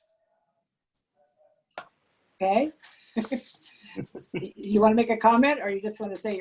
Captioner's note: laughter